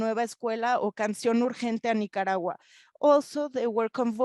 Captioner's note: speaking in foreign language